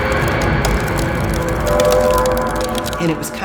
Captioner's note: ice cracks